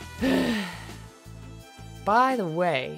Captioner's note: sigh